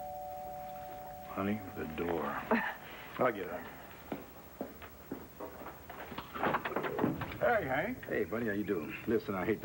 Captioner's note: doorbell rings